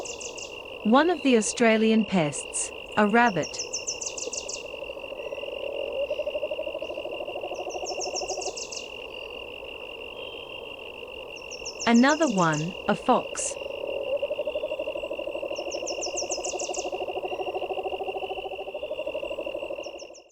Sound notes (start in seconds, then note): 0.0 nocturnal sounds; 4.2 nocturnal sounds; 14.0 nocturnal sounds